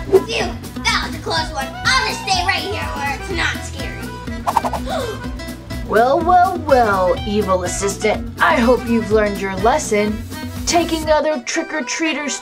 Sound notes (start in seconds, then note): 4.6 assistant gasps